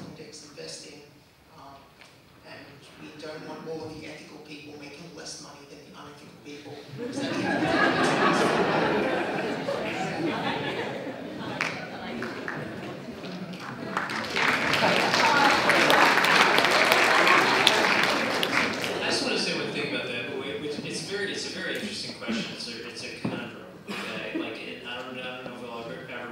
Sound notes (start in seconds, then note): 7.0 crowd laughing; 13.1 clapping